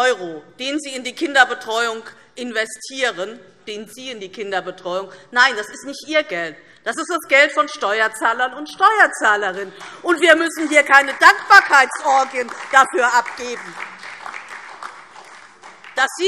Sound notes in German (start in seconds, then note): 10.2 Beifall DIE LINKE und SPD